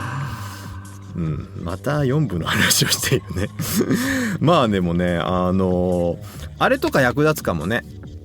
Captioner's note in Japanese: 笑い